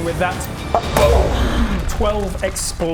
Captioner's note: boom!